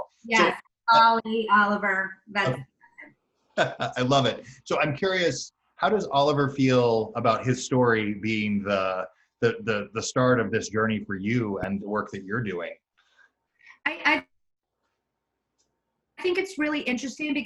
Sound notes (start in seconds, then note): 3.6 laughs